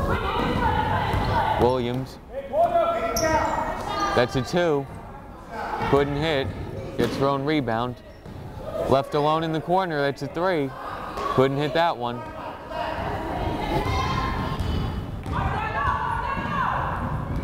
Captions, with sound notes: Williams, that's a two, couldn't hit. Gets her own rebound. Left alone in the corner, that's a three, couldn't hit that one. (crowd chattering)